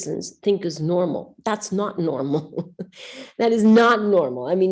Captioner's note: chuckles